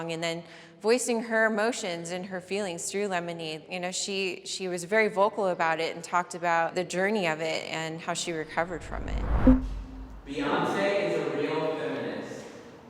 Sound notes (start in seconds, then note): 8.5 electronic blip